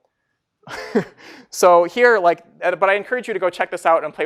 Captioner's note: laughing